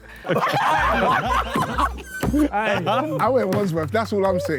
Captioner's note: Sidemen laugh